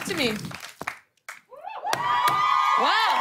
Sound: cheers and applause

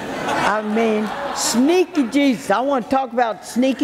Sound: audience laughing

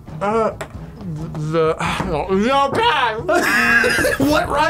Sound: laughs

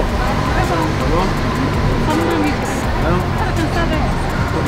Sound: speaking Portuguese

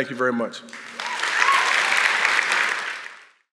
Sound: clapping

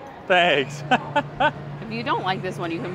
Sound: laughs

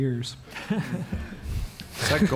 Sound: audience laughs

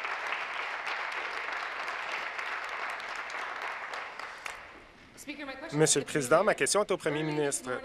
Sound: applause

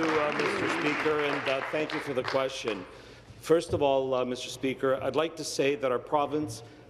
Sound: applause

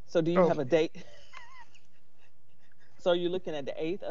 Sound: laughs

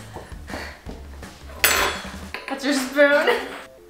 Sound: spoon clanking

